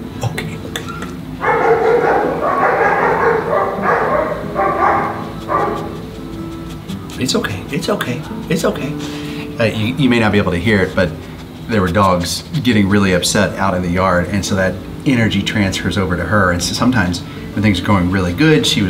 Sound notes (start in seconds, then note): 1.7 dogs barking